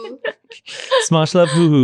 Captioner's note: laughing